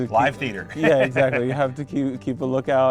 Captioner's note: chuckles